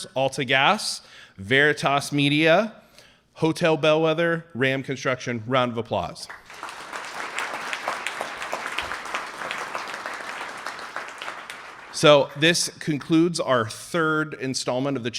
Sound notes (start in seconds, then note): 6.2 audience applauding